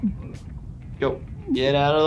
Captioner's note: gasping for air